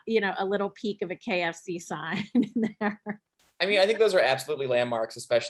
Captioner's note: chuckling